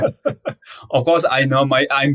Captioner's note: laughs